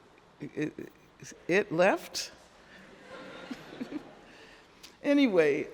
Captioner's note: crowd laughing